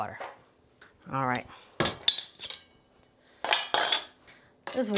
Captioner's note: pan clanging